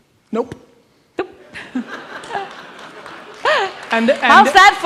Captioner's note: audience laughs and applauds